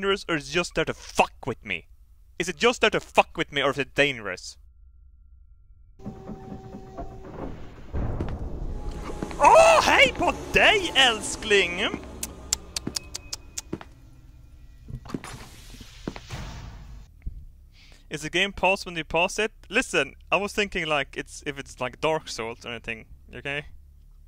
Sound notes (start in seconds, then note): 10.2 Swedish